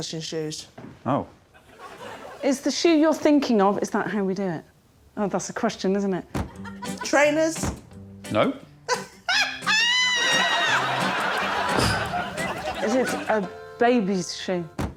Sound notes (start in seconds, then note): 8.9 laughing